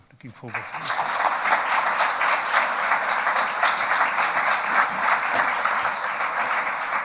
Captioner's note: audience applauding